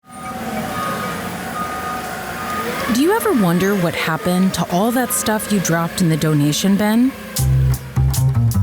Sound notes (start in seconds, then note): 0.7 tractors humming and beeping; 7.4 upbeat music